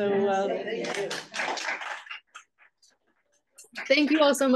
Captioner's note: audience applauds